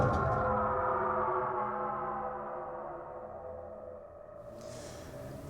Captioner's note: ominous sound